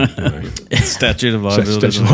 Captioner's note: laughs